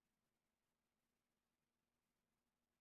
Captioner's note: none